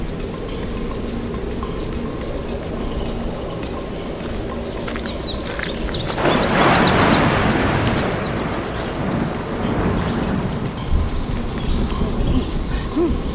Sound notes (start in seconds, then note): 0.1 upbeat music; 4.5 gravel crunching; 5.8 thunder crashing; 9.9 rain pattering; 11.6 upbeat music; 12.7 both grunting